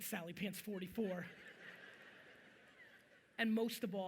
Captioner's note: audience chuckling